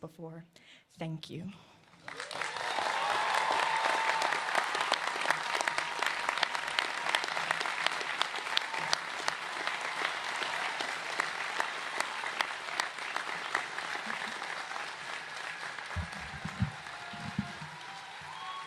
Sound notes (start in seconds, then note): 7.2 cheers and applause